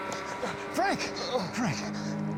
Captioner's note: groaning